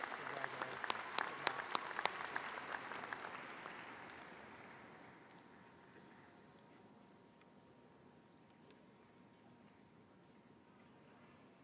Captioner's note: cheers and applause